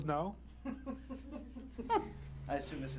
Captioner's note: laughter